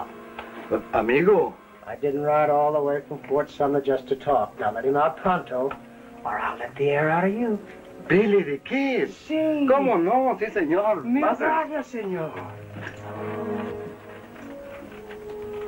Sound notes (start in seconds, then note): 11.0 Spanish spoken audio